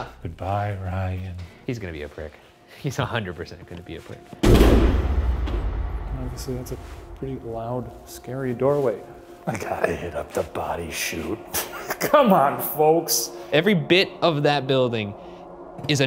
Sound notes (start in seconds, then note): 4.4 door thudding; 11.4 laughing